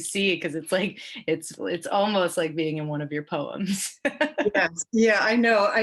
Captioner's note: laughs